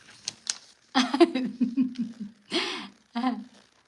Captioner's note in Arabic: ضحك